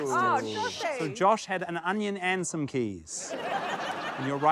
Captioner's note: laughter